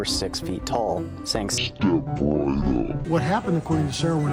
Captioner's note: deepened voice